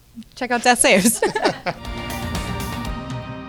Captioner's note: laughing; upbeat music